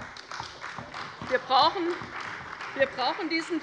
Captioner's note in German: Beifall bei der CDU und dem BÜNDNIS 90/DIE GRÜNEN